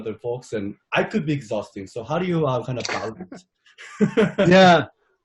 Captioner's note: laughs